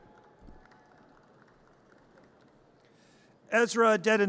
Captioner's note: audience cheers